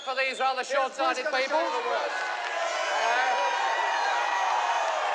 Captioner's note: crowd cheers